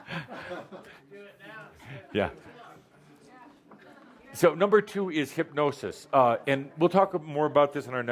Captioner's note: laughter